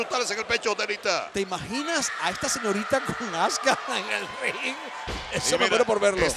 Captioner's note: laugh